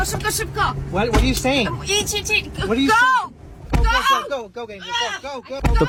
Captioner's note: woman, yelling